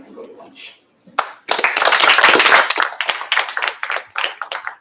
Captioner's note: applause